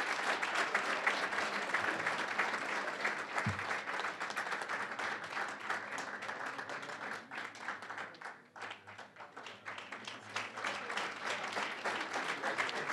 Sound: applause, cheering; applause

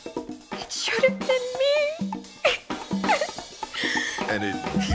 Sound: cries

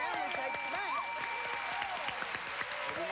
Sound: cheers and applause

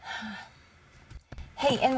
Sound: sighs

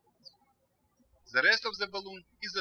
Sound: birds chirping

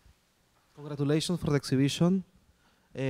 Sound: voiceover

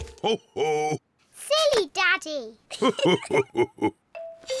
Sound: both laugh

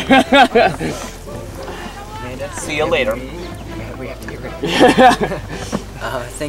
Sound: all laughing

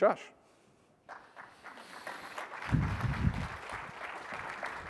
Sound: applause

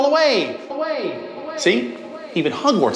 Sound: echoes

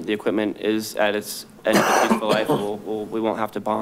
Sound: coughing over speech

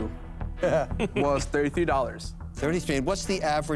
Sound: cuban laughs

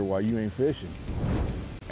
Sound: air whooshing

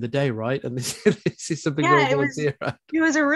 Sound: chuckling

